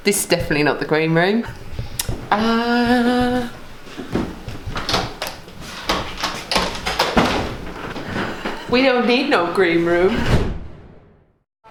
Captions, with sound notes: This is definitely not the green room, uh... (door handle clicking) We don't need no green room.